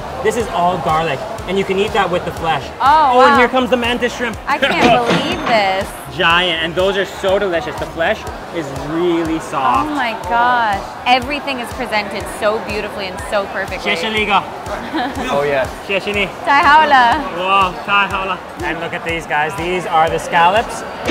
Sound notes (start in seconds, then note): 4.7 cash register ringing